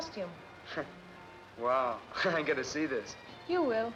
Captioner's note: chuckles